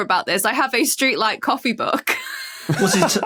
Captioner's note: laughs